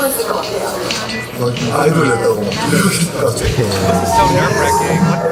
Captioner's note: laughs